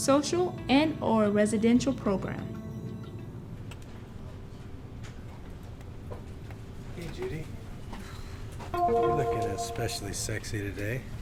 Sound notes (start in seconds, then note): 8.7 alarm sound